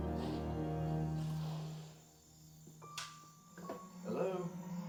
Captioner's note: crickets chirping